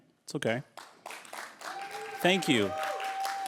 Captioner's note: applause